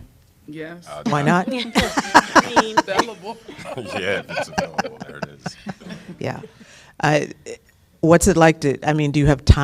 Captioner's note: laughter